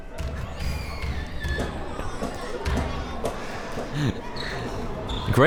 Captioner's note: crowd members talking